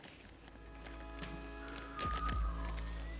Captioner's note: sound of bag rustling